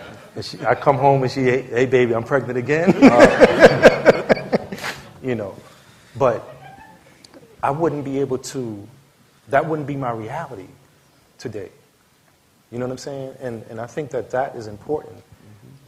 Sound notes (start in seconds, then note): 2.9 laughter